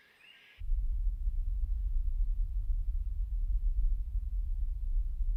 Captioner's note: low pitched humming